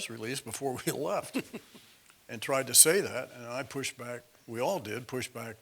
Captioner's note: laugh